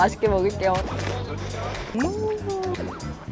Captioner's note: slurping noodles